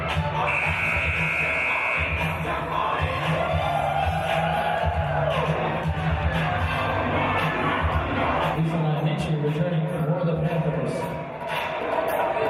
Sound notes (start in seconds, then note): 0.4 buzzer